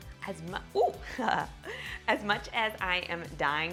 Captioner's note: chuckling